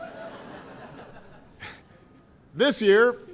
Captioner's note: laughter